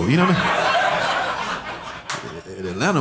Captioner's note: audience laughing